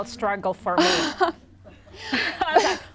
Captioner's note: laughter